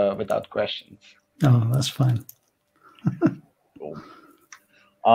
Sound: laughs mildly

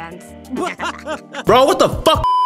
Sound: laughter; beeeeeep

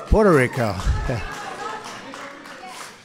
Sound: applause

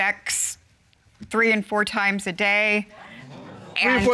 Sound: audience exclaims

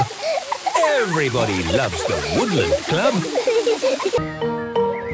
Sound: laughter

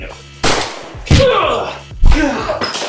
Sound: struggling; smack; bang!; thump

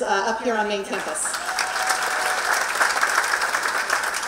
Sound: applause

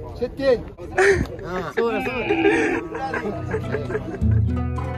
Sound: chuckling

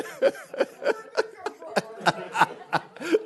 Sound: laughing

